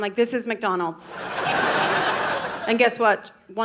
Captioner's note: audience laughing